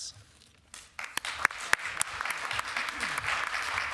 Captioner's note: applause